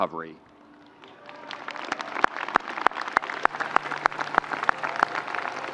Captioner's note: audience applauding